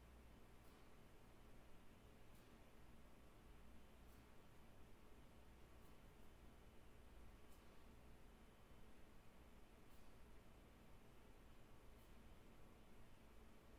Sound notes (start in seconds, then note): none